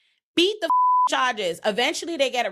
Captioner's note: beep